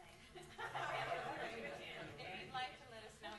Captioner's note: laughs